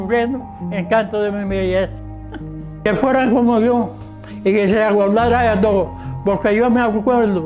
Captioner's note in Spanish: recita poesía